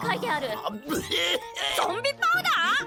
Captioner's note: coughing